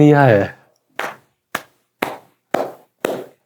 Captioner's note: claps